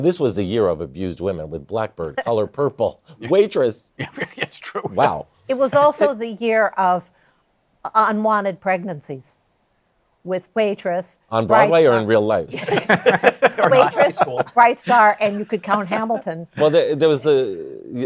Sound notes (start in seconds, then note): 12.5 laughter